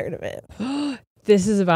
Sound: gasps

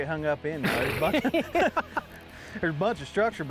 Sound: laughing

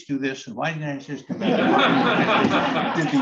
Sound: laughter

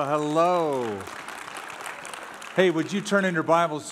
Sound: applause

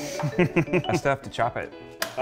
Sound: laughs

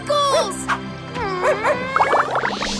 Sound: barking

